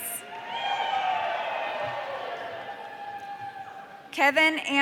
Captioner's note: audience cheering